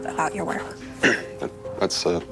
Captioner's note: clears throat